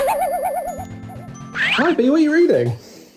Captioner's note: object boings